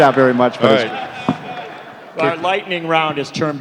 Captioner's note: laughter, applause